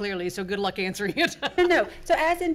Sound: laughs

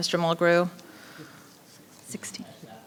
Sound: speaking faintly

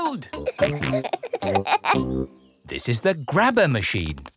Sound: peppa and george laughing

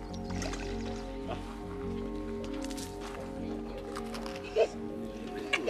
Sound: rocks landing in water; giggles

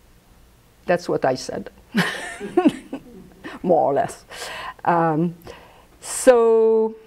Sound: laughs

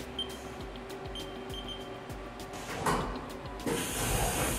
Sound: electronic beeps; hissing air

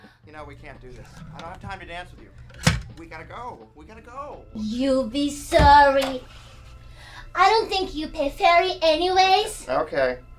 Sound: sound of paper cutter

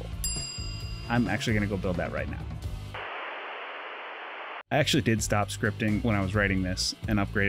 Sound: tv static

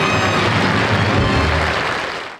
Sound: applause

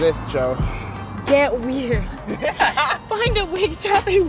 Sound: laughs

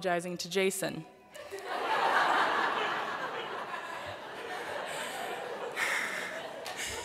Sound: laughter

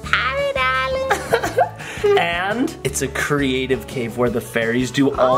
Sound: chuckles

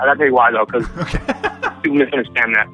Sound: chuckling

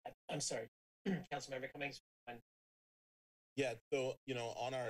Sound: clears throat

